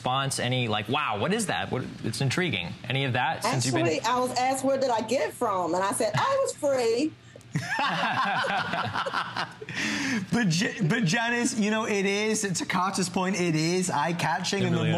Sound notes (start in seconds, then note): 7.5 laughter